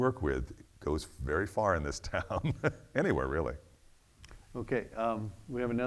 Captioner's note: laughs